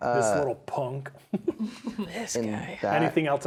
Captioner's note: players laughing